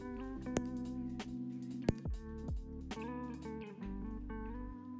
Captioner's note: the sounds like popcorn popping